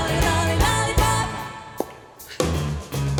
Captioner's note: popping noise